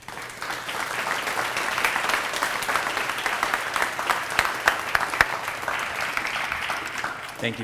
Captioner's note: applause